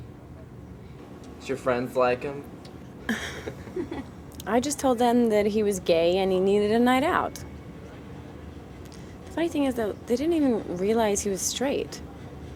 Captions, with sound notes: - Did your friends like him? (Justine sighs) (Tammy laughs) - I just told them that he was gay and he needed a night out. The funny thing is, though, they didn't even realize he was straight.